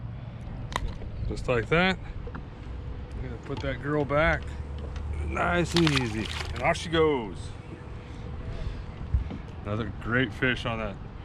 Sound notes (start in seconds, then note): 1.6 click; 7.6 fish splashing